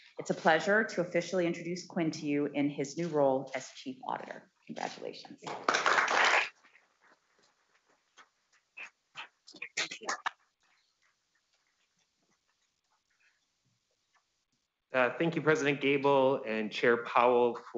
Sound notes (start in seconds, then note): 5.4 audience claps